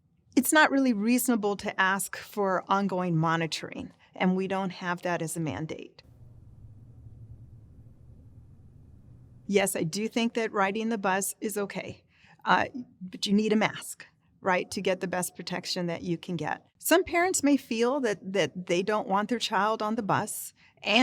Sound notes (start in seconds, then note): 6.0 silence